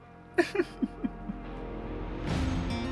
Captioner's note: cries